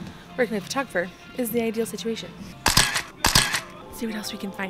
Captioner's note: camera shuttering